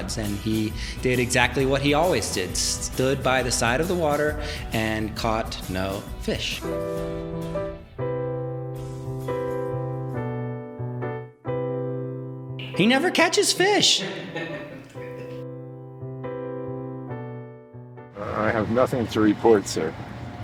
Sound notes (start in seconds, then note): 7.1 charming piano music; 14.0 laughter; 15.5 charming piano music